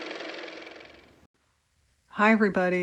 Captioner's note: car motor